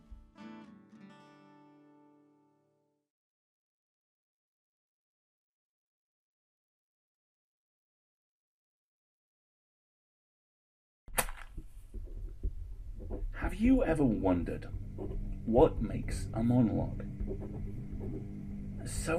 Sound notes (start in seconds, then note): 0.0 soft guitar music fades out; 11.2 match flares, pen scratching; 17.3 ominous humming builds